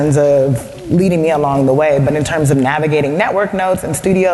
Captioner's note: none